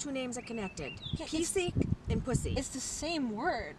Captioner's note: speaking in foreign language